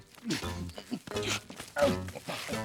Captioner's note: grunting